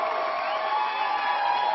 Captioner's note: applause